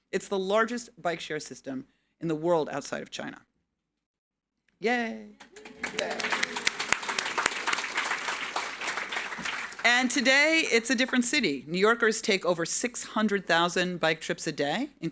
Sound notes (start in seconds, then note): 5.4 audience applauding